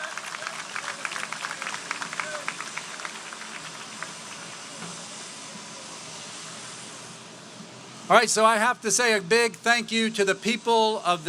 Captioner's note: applause